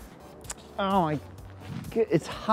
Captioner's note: lips smack